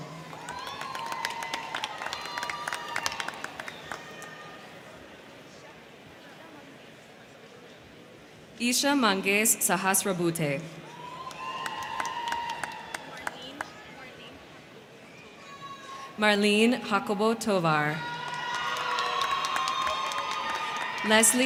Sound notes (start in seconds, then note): 0.0 crowd clapping; 0.0 crowd cheering; 10.8 crowd cheering; 10.9 crowd clapping; 17.7 crowd cheering; 18.1 crowd clapping